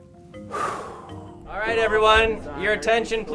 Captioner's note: exhales